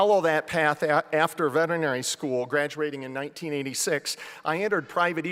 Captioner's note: none